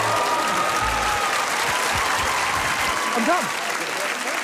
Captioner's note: playful music plays; laughter